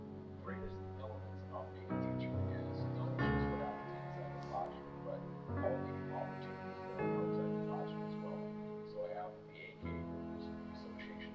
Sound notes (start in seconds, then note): 3.4 TV chatter continues; 3.4 light music